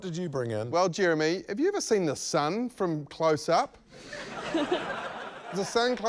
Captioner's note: laughter